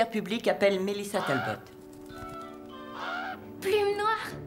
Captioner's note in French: musique orchestrale légère; Blackfeather caws